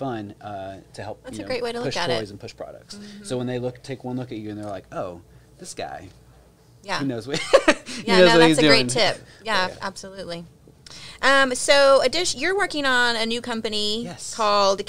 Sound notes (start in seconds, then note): 7.4 laughing